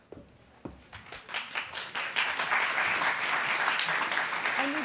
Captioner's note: applauding